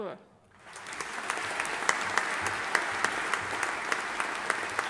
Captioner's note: audience applauding